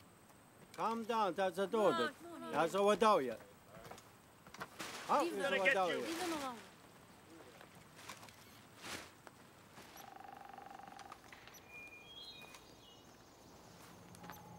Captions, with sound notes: - He's gonna get you. - Leave 'em alone. (birds chirping)